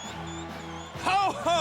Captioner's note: crowd cheering